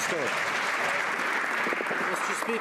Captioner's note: some Applause